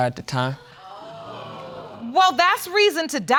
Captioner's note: audience exclaiming